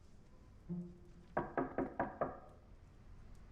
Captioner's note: knocking